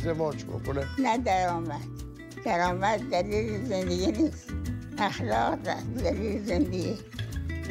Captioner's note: speaking Foreign Language